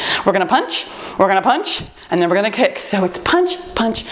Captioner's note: timer beeps